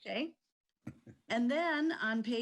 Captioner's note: guy chuckles